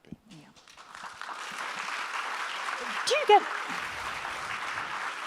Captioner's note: audience applauds